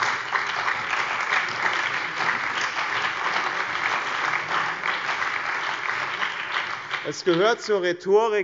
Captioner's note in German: Beifall